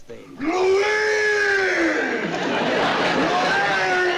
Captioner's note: yelling